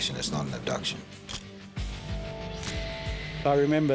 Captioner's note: camera shutter click